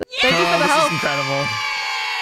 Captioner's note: cheers